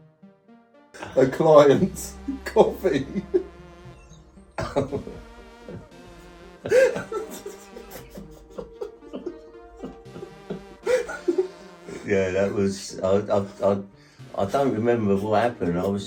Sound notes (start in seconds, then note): 4.6 both laughing